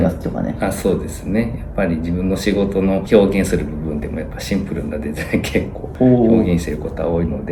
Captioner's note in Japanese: 笑い